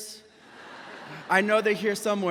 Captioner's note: audience laughs